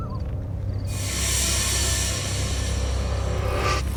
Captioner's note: mysterious horror sounds